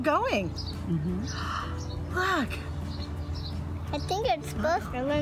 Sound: gasps

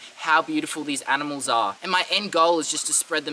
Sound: snake hissing

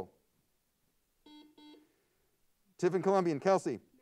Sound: buzzer sounds

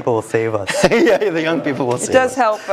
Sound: laugh

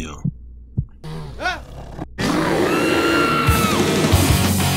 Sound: screams

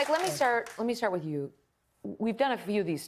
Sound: applause

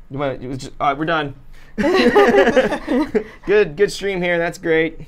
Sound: everyone laughs

